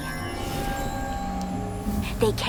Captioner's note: magical buzzing